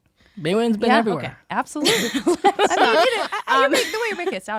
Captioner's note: laughing